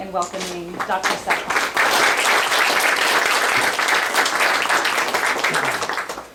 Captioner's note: applause